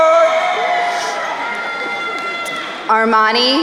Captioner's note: crowd cheering